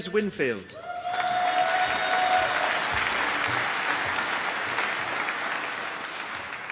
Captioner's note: applause